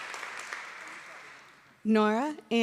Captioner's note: applause